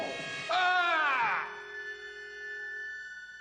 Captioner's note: screaming